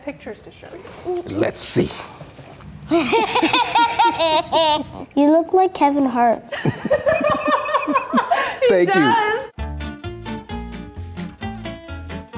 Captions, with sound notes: - Let's see. (laughing) - You look like Kevin Hart. (adults laughing) - Thank you. (upbeat music)